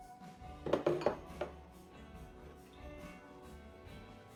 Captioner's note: dishes clacking